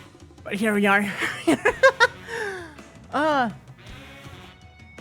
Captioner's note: laughter